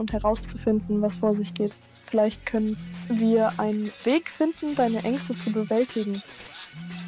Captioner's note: phone ringing